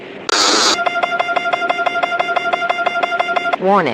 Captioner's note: alarm